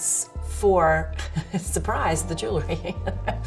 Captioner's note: laughs